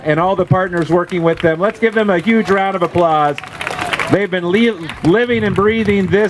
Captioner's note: applause